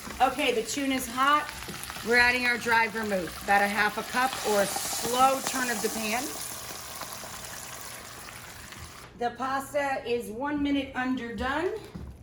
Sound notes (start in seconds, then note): 6.3 pan sizzling